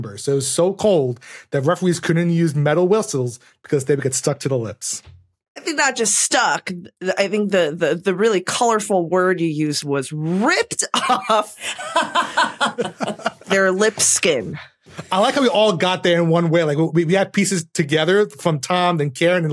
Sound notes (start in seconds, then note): 11.5 laughs; 11.6 laughs uproariously